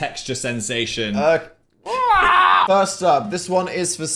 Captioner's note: squawks